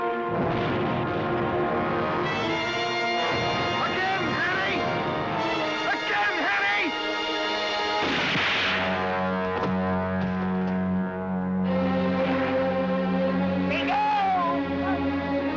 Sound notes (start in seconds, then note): 8.0 gun fires